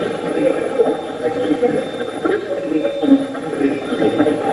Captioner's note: Steve's Box chatters